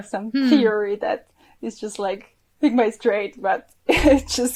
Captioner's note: chuckles